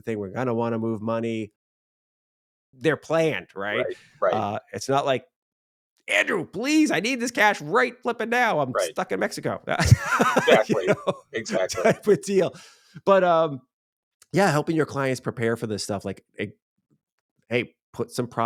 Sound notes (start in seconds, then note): 9.8 laughs